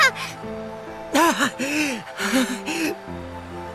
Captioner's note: pained breathing